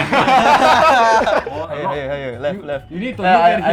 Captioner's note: chaotic CPU inserting noises